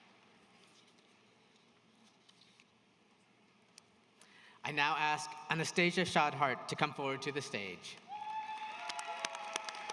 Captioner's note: applause